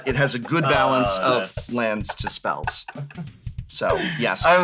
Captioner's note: laughs